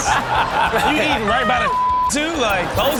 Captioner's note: beep